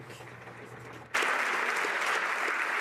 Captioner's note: some Applause